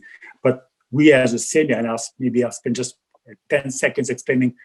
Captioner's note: murmurs